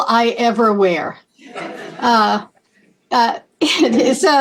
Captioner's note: laughter